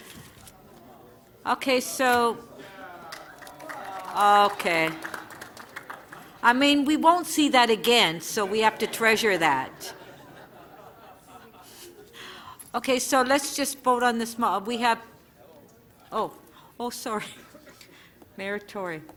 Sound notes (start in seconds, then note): 3.0 applause; 11.6 laughter